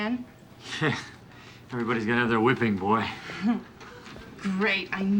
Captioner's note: chuckles